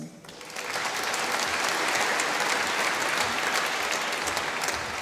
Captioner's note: applause